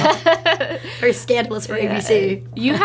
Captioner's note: laughs